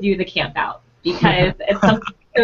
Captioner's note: laughing